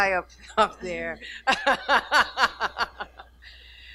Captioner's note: laughing